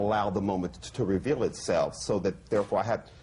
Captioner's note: none